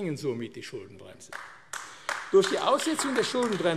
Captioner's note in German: Beifall AfD